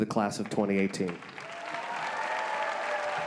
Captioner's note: applause